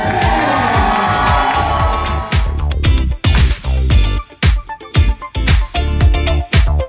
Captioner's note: applause